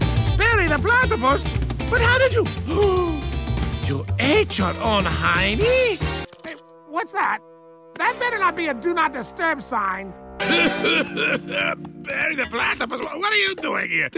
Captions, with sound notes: Perry the Platypus? But how did you -- (gasp) You ate your own hiney? Hey - what's that? That better not be a "Do Not Disturb" sign! (coughing) Perry the Platypus? What are you doing here?